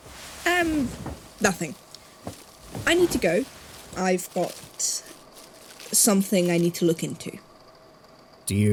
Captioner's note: rustling, standing